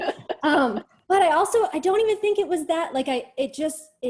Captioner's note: chuckles